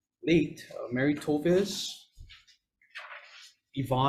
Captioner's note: paper rustling